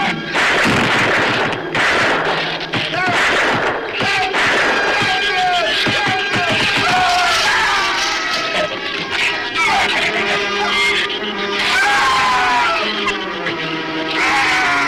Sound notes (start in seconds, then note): 0.0 shrews screech; 0.2 gun fires; 6.3 Rook screams; 8.4 shrews snarl; 11.5 Rook screams